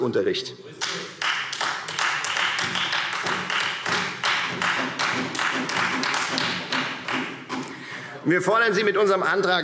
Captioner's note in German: Beifall